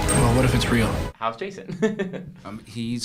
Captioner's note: chuckles